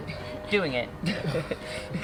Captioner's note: laughs